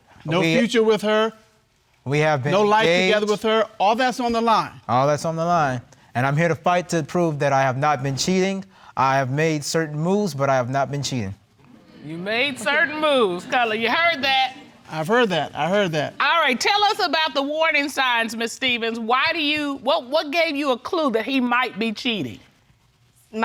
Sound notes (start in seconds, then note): 11.9 audience exclaims